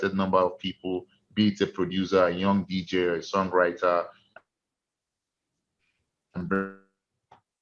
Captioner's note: stutters